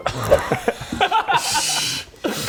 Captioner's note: laughs